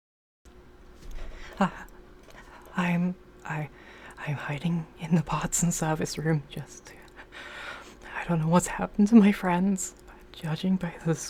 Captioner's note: shuddering; quietly whimpering